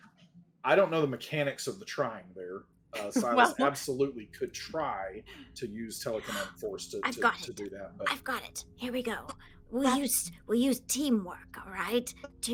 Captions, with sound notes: - I don't know the mechanics of the trying there. Uh, Silas absolutely could try to use telekinetic force to do that. - (gasps) I've got it! I've got it, here we go. We use teamwork, all right?